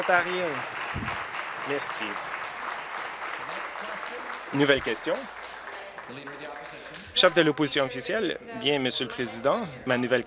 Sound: applause

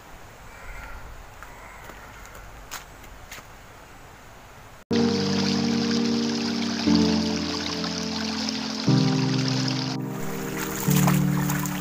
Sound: sound of water

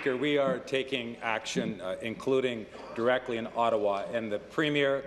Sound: applause

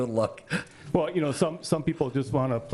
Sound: laughing

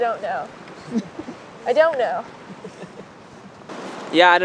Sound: chuckles

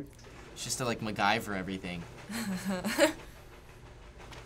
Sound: laughs

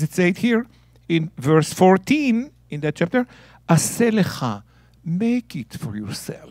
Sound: speaking in Hebrew

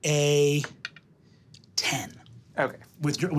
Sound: dice clattering

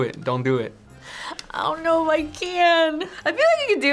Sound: laughs

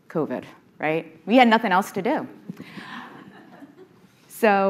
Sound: audience laughing

